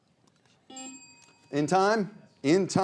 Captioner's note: bell chimes